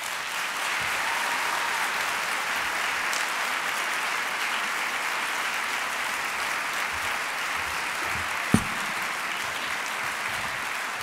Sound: applause

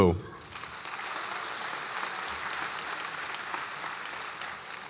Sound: audience applauds

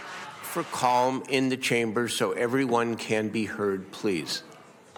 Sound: cheers and applause

